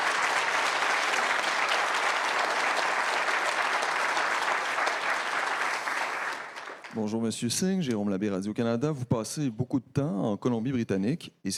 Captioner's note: cheering/Applause